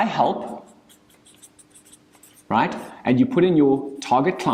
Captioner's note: marker screeching